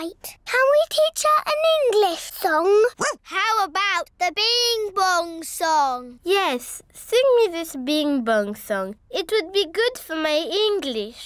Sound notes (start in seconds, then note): 2.9 barks